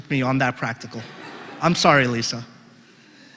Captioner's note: laugh